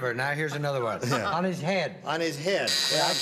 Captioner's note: buzzer sounds